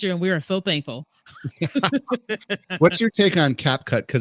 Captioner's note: both laughing